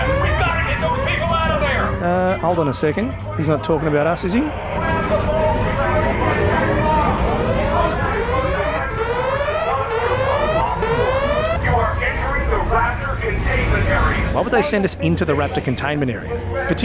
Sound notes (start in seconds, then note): 6.3 fx - emergency sirens and alarms